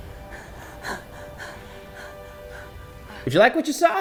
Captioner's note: Black Widow and Taskmaster panting